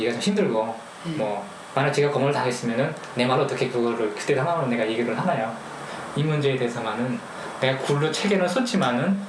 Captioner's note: speaking in foreign language